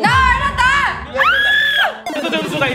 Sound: squealing

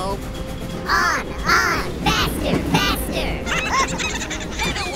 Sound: laughing

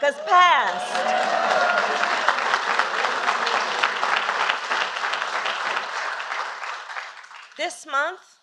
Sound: applause

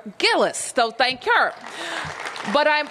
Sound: applause

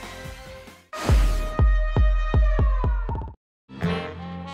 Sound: thumping bass music; air swooshing; smooth melodic jazz music

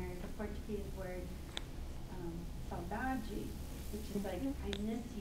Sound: speaks in foreign language

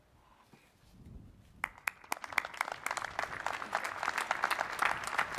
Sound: applause

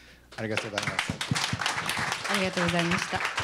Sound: applause; non-english speech

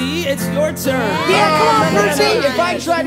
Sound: agree and cheer

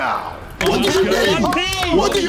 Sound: everyone clapping

